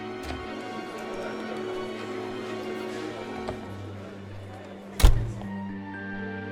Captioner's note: group chattering; door handle clicks; door thuds